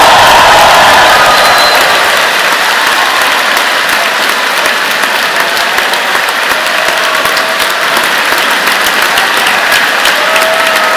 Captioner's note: cheers and Applause